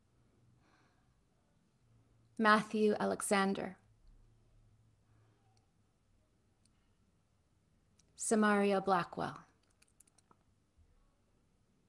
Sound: moment of Silence

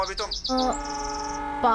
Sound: train engine sound

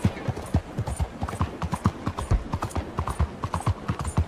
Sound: hooves thumping

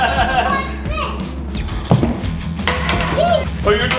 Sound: laughing

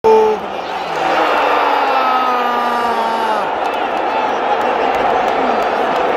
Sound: clap

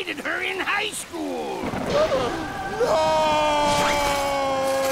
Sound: gasping

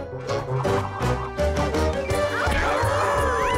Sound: Word Monster squawks

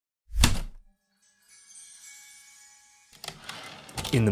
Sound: heavy typewriter keystroke, light chimes typewriter return slide

